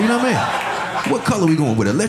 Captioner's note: audience laughing